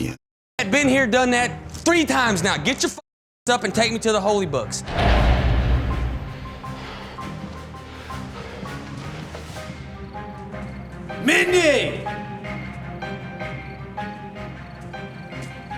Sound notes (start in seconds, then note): 4.9 uneasy music; 9.6 crickets chirping; 11.8 tense ominous music